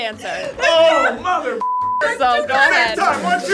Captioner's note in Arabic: زمارة